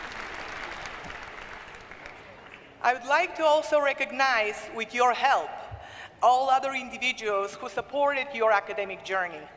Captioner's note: applause